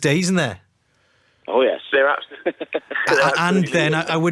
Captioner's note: laughing